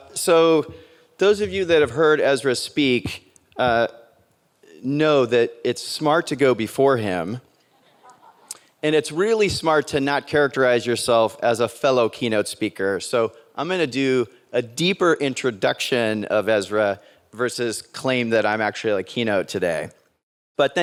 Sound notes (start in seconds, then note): 7.8 audience laughs